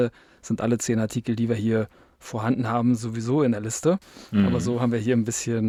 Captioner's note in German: räuspern